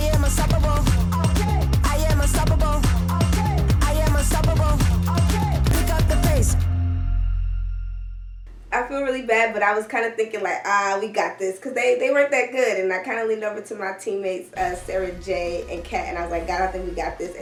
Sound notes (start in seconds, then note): none